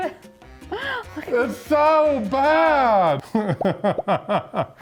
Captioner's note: laughs